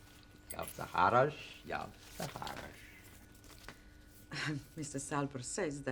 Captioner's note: man speaking unknown foreign language